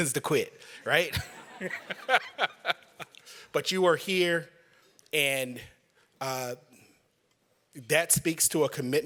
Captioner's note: laughter